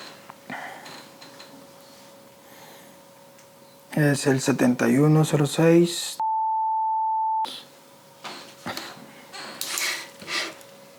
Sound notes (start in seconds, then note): 6.2 beep